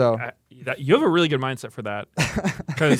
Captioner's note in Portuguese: risos